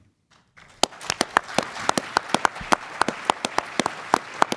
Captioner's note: audience applauds